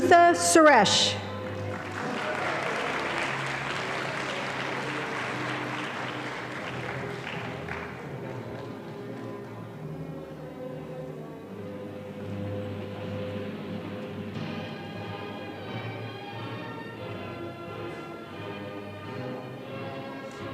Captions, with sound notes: - Omaritha Suresh. (audience applauding)